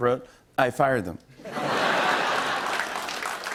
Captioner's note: laughter and applause